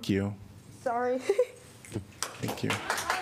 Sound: applause

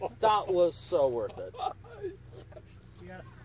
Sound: laughter

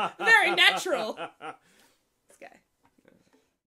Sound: laughs; laughs even more heartily

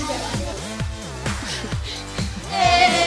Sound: laughs

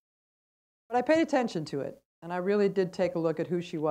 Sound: none

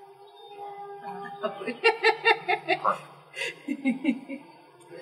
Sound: laugh

